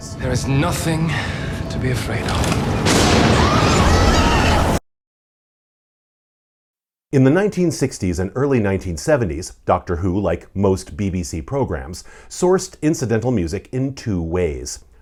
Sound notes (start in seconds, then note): 3.0 all scream